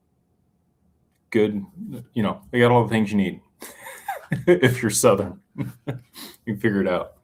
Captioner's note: laughter